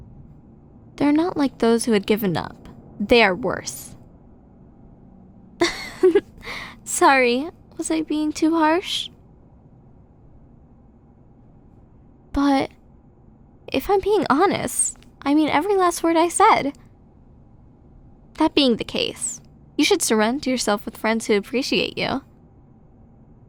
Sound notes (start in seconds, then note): 5.6 giggle